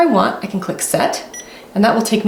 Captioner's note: press beeping